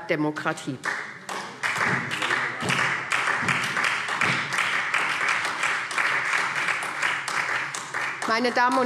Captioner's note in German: Beifall SPD